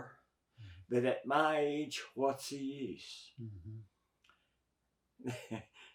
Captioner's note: chuckles